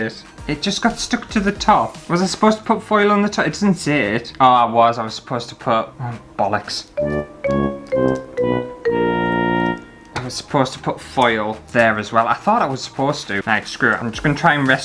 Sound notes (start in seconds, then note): 7.0 fail Sound